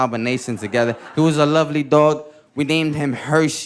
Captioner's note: audience laughing